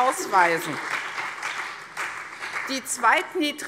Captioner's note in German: Beifall CDU und BÜNDNIS 90/DIE GRÜNEN